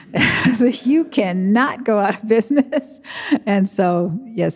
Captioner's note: chuckles